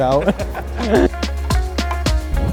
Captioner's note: laughs